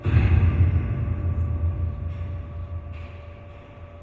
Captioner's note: loud crash echoes